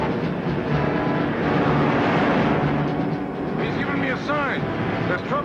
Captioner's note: dramatic music; truck whizzes